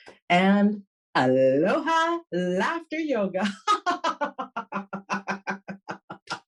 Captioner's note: laughs